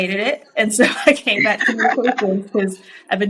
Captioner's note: laughs